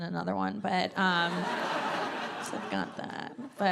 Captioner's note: audience laughing